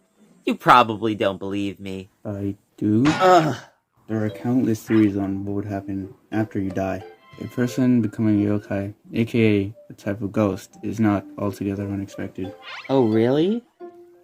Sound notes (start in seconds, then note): 3.1 Fuu2 grunts